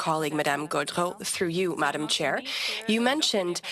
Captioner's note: speaking French